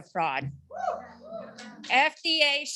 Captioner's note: audience cheering